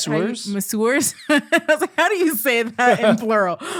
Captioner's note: laughing